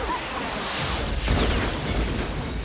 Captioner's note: earth-shattering kaboom